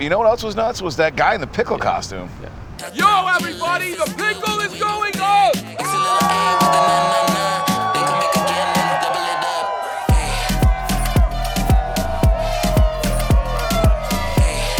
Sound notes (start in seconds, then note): 5.9 energetic music; 5.9 people cheering